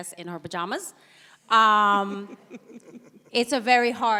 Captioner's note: giggles